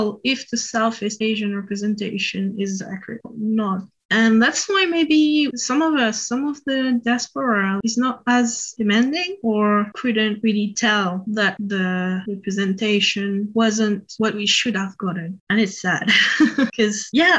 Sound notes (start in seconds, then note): 16.1 sad laugh